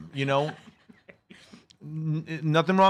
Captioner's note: laugh